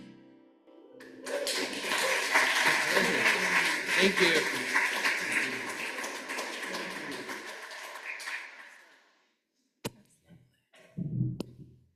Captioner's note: applause